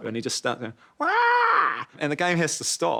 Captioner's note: squawks